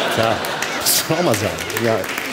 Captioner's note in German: Lachen